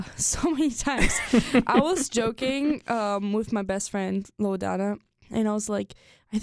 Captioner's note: chuckles